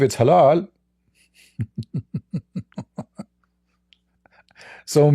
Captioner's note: Ketawa